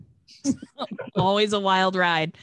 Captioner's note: everyone chuckles